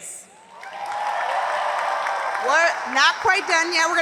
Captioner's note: audience applauds